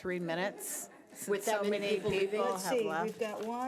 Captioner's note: overlapping chattering